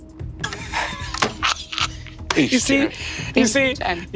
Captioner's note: Brennan laughing